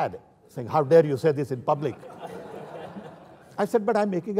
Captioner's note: laughter